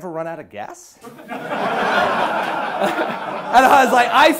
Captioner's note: class laughing